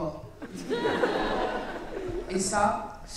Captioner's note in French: rires